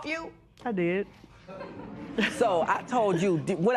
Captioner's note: laughter